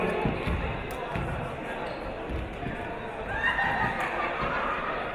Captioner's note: crowd chatter